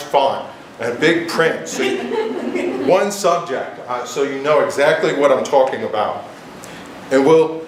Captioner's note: giggles